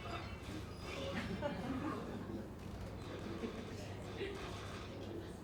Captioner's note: audience chuckles